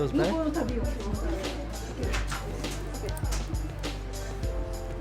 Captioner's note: speaking japanese